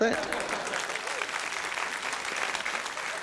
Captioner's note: applause